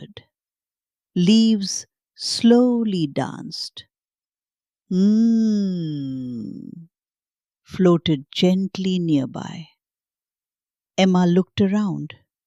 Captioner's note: hums